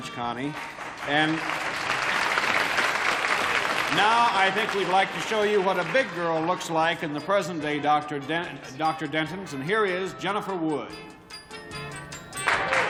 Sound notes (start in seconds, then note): 3.3 applause